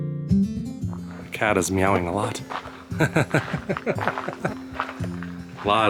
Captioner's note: laughter